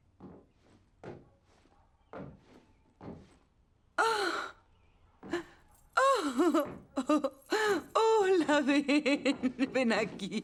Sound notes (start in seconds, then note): 4.0 gasping